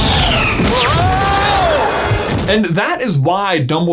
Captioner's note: spell whooshing; Gilderoy yells